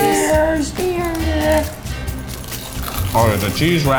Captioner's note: upbeat music; corn dogs crunching